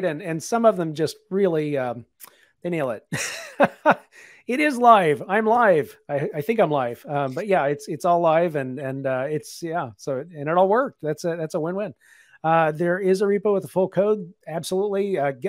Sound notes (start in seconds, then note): 3.1 laughs